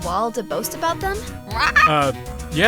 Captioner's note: squawk